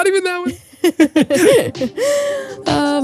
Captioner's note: both laughing